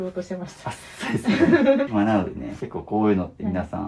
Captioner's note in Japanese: 笑い